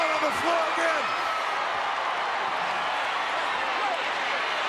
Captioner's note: crowd cheering